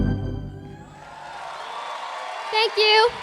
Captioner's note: applause, cheering